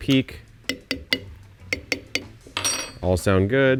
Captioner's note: spoon tapping; spoon clinks